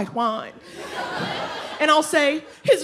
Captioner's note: audience laughing